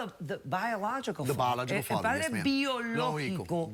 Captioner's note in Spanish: en inglés